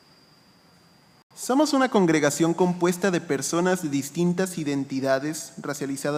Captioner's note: speaking in foreign language